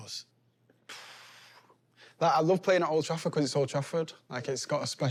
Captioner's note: exhales deeply